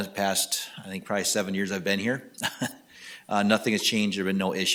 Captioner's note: laughing